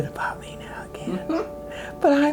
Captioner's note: chuckles